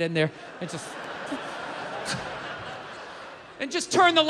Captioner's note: crowd laughs